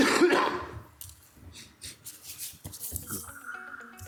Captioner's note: council member coughs; upbeat electronic music